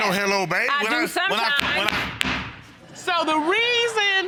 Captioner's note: gavel bangs; audience laughing